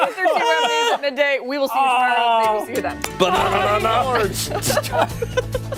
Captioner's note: laughter